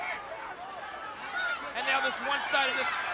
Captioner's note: audience chattering